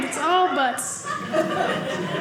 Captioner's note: audience laughing